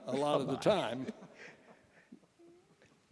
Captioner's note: laughter